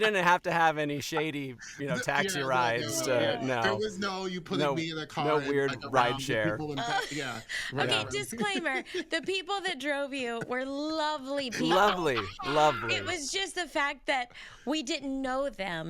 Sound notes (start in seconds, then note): 6.4 both murmuring